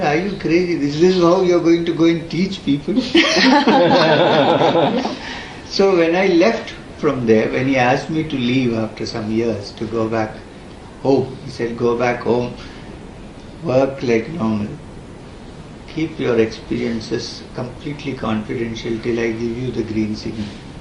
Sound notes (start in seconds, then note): 3.0 laughs